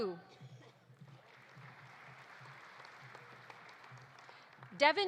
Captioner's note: audience applauding